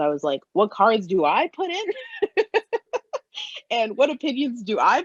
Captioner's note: laughs